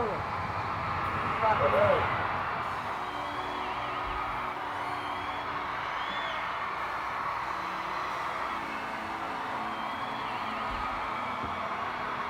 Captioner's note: music and audience cheers